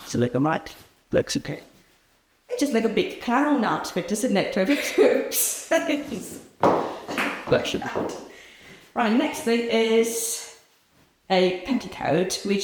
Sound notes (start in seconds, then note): 6.3 heels clicking; 7.4 woman laughs